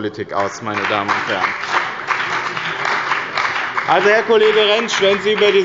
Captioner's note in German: Beifall bei dem BÜNDNIS 90/DIE GRÜNEN und der CDU